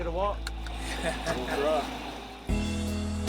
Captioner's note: laughing; upbeat music